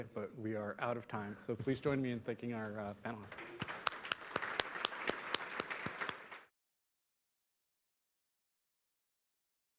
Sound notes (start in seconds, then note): 3.3 applause